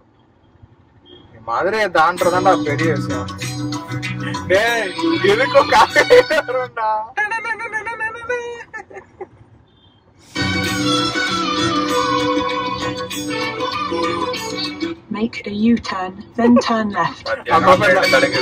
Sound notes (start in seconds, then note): 4.2 funny sound